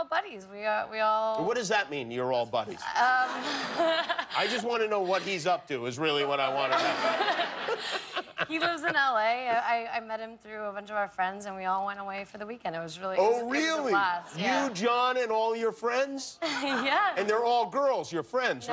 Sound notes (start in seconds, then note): 6.5 laughter